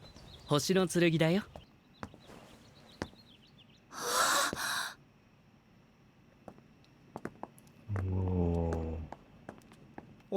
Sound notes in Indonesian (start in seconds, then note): 3.9 menghela napas; 3.9 terkesiap